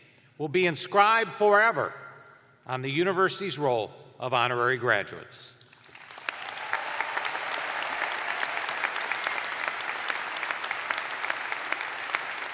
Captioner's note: cheers and applause